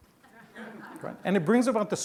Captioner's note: laughing